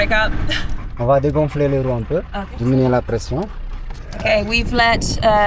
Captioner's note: speaking in foreign language